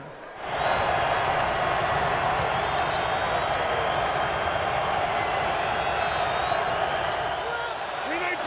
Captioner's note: crowd cheering